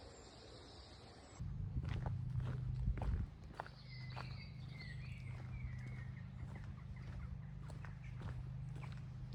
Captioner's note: birds singing